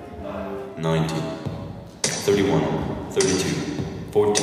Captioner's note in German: englisch, über Lautsprecher